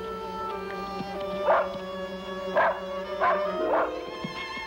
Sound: barking

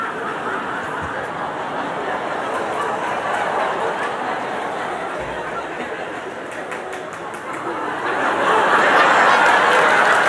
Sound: laughter

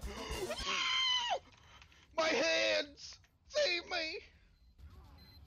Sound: incoherent screaming as i try to conserve my precious Heads

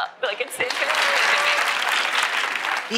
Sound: applause

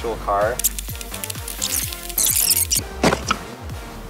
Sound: tape scratching

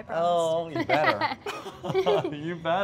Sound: laughter

